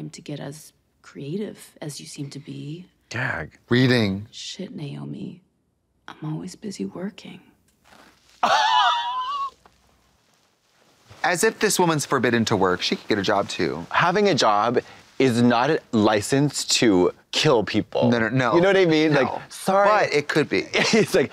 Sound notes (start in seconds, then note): 8.0 Katya hisses